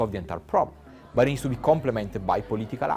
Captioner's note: crowd chattering